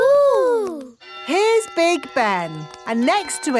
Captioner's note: clock chimes